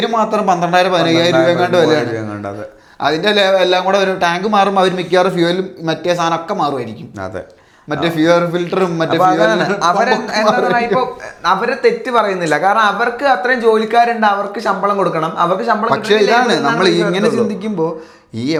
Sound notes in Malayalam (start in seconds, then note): 9.1 പൊട്ടിച്ചിരി